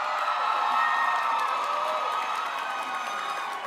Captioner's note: applause